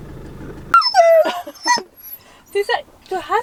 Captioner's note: Caesar is howling